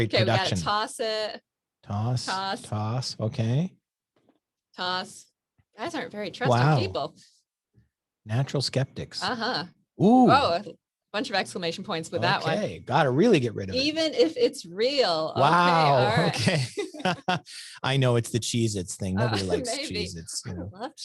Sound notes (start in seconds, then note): 17.1 both laugh; 19.2 laughs